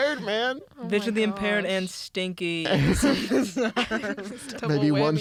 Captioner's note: laughs